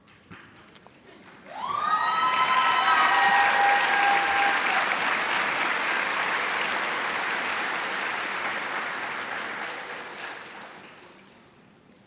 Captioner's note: cheers and applause